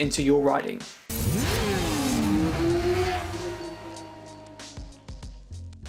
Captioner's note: motorcycle engine roaring